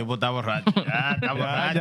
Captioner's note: speaking Spanish